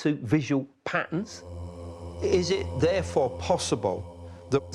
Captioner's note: voices chanting